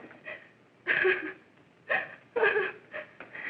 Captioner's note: sobbing